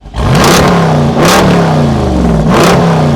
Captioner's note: engine revving